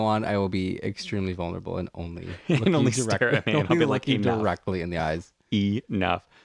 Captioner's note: laugh